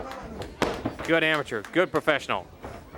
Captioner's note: crowd chatter